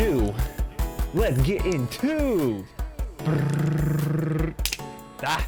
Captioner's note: imitates a drumroll